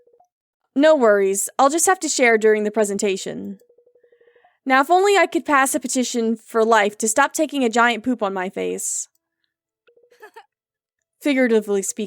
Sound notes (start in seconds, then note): 10.2 Maribel laughs